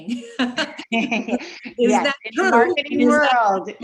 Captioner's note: both laughs